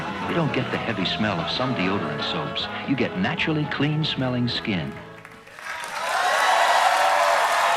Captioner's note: applause